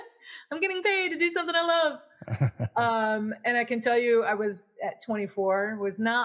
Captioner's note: laugh